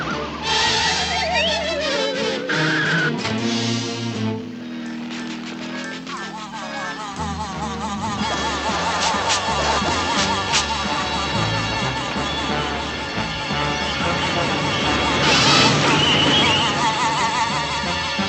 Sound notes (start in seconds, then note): 6.1 TRUCK WHlNING